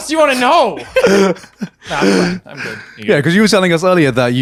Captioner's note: laughing